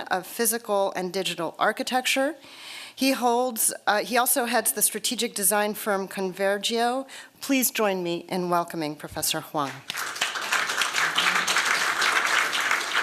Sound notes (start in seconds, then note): 9.6 applause